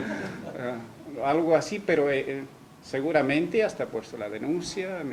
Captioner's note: risas